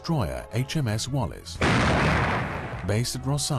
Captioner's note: gun firing